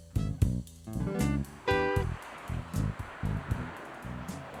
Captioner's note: cars whooshing